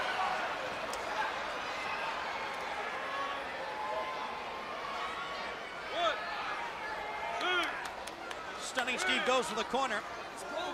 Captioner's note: crowd chatter